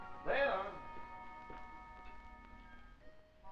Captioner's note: foot steps